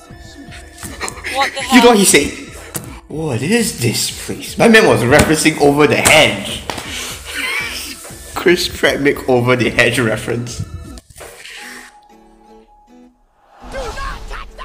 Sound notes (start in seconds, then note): 6.8 inhales; 11.1 inhales